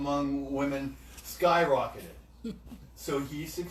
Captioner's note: chuckles